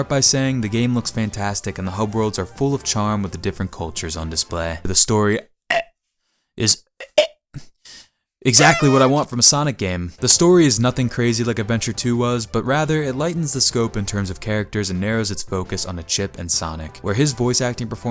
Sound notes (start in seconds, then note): 5.8 gags